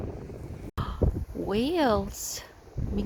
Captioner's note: gasps